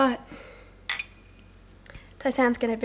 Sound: glasses clink

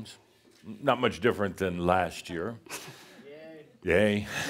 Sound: someone says sarcastically “Yay!”

